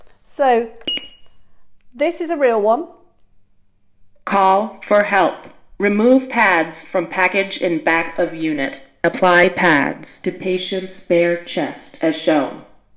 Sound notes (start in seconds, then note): 0.8 beep